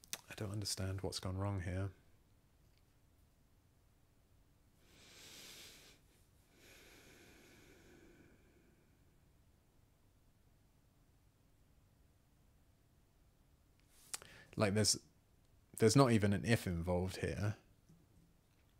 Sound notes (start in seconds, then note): 1.9 sighs